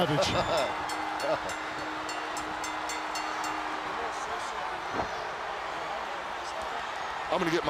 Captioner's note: bell ringing